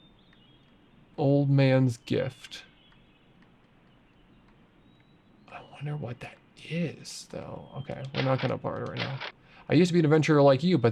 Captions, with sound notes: Old man's gift. (birds chirping) I wonder what that is though. Okay, I'm not gonna barter right now. I used to be an adventurer like you,